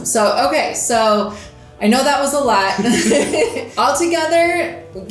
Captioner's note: laughing